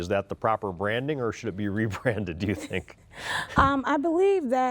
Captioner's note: laughs